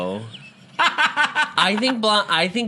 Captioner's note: cackles